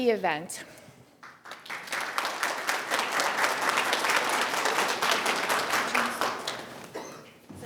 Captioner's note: attendees applauding